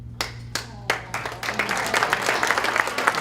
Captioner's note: applause